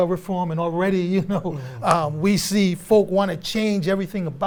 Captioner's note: chuckles